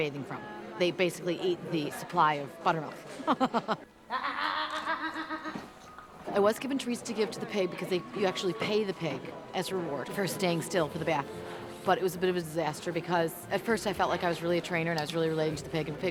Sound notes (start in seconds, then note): 3.2 laughing